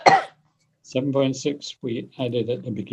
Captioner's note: coughs